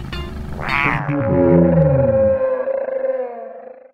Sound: dinosaur noise

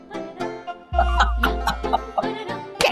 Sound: laughing

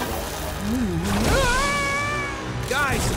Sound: screaming

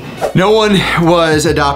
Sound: screen swooshes

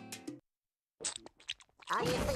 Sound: slurping

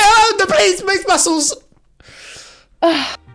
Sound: screaming

